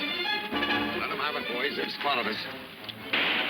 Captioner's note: guns firing